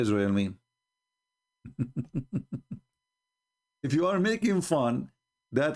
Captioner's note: Ketawa